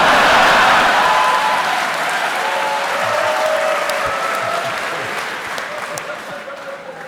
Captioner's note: cheering